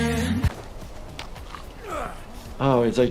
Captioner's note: grunting